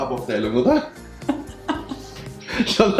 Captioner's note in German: lachen